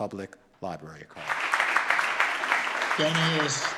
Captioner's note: audience claps